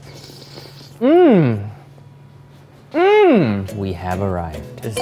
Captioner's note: spaghetti slurping loudly